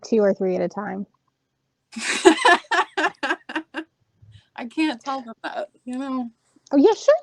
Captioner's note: laughing